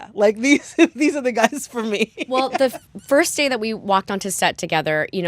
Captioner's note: laughter